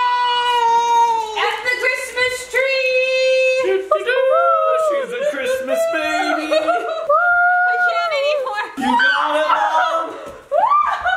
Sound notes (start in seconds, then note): 3.7 imitating trumpets